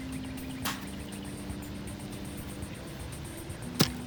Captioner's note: soft upbeat music; bottle pops; bottle falling